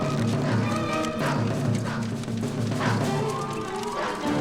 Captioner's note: dog barking